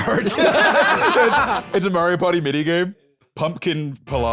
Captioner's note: all laughing